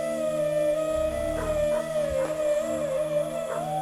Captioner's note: Nazeer snoring